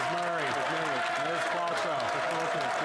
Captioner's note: some Applause